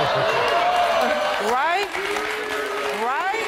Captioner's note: audience cheering